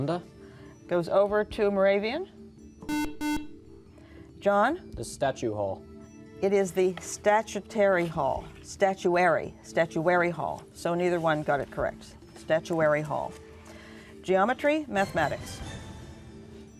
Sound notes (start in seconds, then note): 2.8 beeping